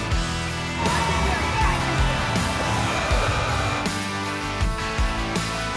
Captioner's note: lively music; crowd shouting